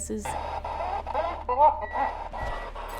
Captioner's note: spirit box voice